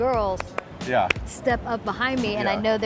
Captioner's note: Jenn clapping